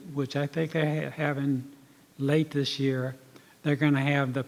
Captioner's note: none